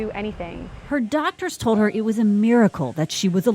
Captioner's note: voiceover